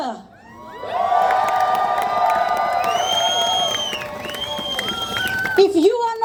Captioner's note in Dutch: Gejuich